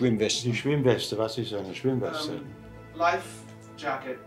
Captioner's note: speaking in German